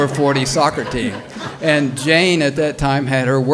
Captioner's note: audience laughs